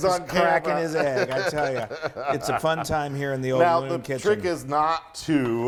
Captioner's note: laugh